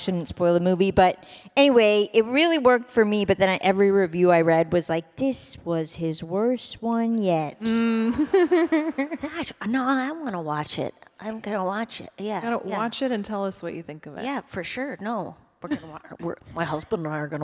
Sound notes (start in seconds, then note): 8.1 laughter